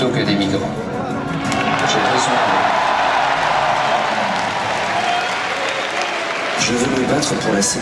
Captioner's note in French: Applaudissements